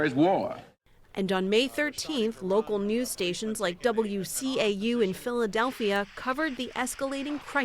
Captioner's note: voice-over